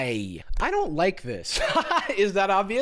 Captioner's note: laughs